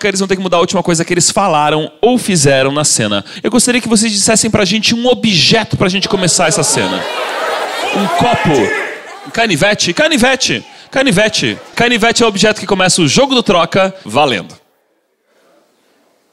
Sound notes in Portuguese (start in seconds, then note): 6.9 plateia dá sugestões